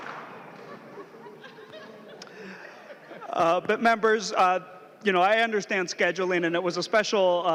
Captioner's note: laughing